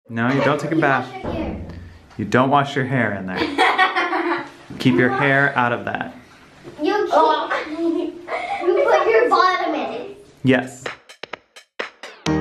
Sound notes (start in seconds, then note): 6.9 kids laugh; 10.8 playful music